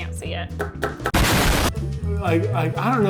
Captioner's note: loud exploding